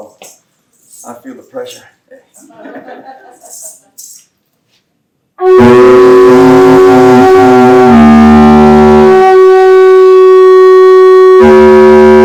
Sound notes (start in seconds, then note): 2.4 laughter; 4.3 clapping